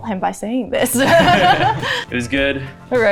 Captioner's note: both laughs